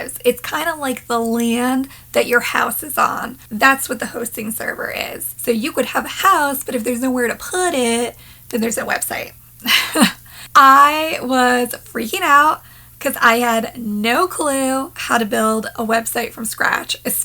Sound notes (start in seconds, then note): 9.7 laughing